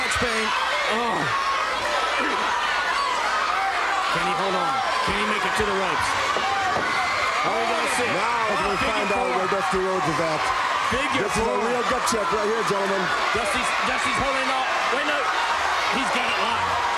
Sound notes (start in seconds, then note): 3.5 crowd cheering; 9.0 crowd chatter